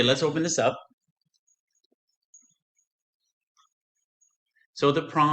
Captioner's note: silence